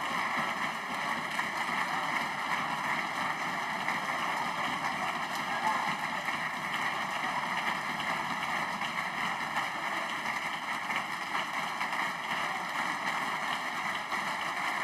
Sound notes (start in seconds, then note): 2.7 applause